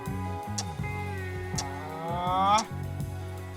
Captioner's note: raising of voice